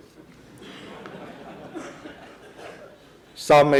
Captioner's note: laughing